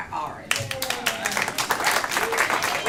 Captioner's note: applause